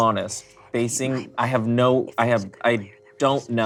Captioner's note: whispering